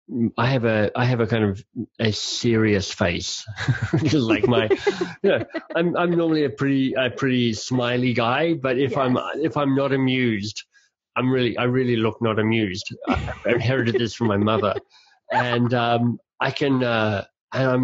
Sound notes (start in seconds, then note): 3.5 laughing; 15.3 laughing